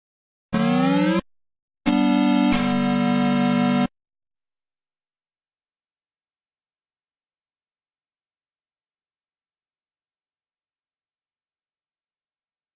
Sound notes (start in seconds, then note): 0.1 8-bit console startup music; 5.6 silence